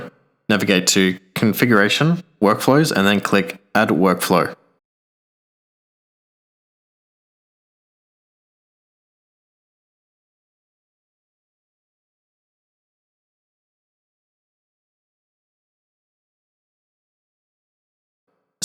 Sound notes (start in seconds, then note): 4.5 silence